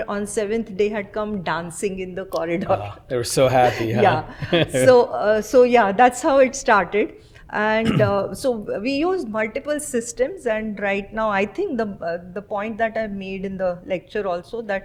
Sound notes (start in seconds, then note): 3.4 laughs